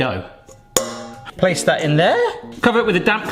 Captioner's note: bowl clangs